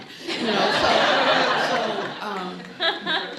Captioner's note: laughing